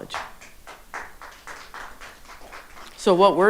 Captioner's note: audience applauding